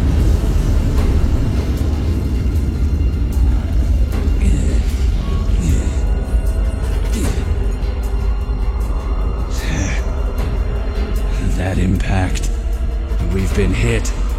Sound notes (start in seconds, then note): 0.0 quaking sounds of widespread destruction; 4.3 Black Shadow groans as he recovers from the jolt; 9.8 confused exhale